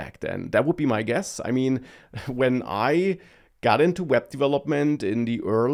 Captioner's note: laughs